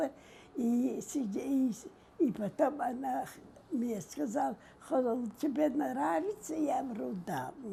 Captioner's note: mumbling